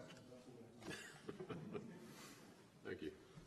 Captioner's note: laughter